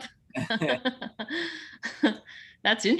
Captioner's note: laughs softly